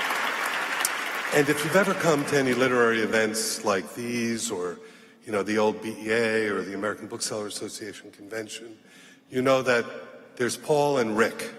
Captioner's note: applause